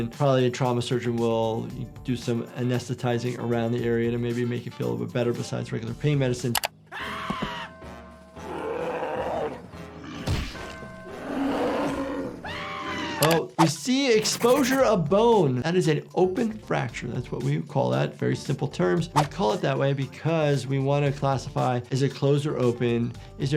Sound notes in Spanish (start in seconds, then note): 8.4 Lumpy grita; 8.6 oso rugiendo; 11.2 Lumpy grita